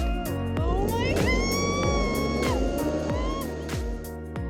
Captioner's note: screams